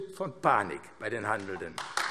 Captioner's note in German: Beifall AfD